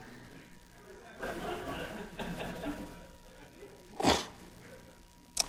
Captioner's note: audience laughing